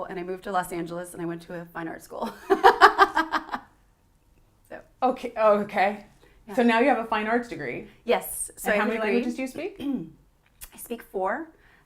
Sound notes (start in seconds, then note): 2.2 laughter